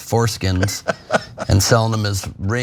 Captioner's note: laugh